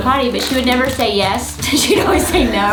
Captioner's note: laughs